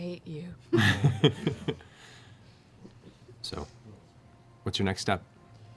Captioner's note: laughs